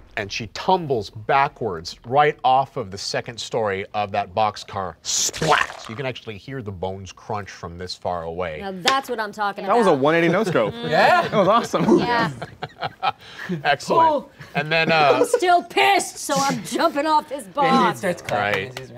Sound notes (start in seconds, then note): 5.4 body smacking ground; 10.6 laughing; 12.8 laughing